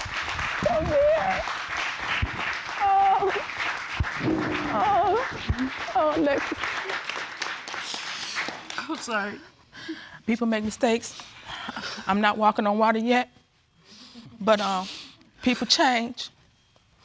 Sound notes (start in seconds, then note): 0.0 crying; 7.6 sniffling